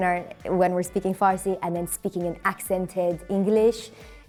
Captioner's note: farsi accent